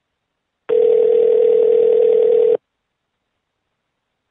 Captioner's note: phone ringing